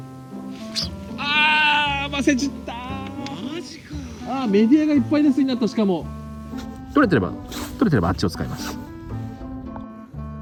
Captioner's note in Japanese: 悲鳴